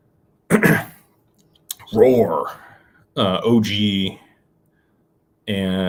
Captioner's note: clears throat